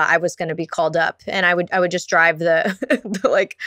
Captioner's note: laughs